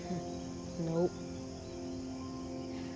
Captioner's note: laughs